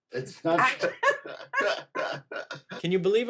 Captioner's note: both laughing